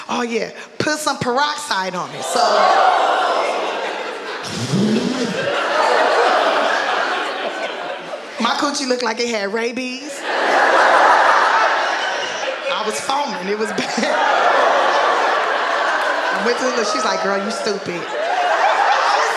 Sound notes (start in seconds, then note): 2.2 audience gasping; 4.6 exhales deeply; 10.3 audience laughing